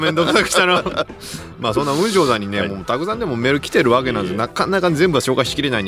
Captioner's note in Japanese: 笑い